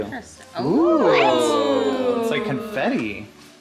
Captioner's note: everyone exclaiming